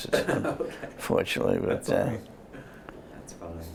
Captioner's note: laughter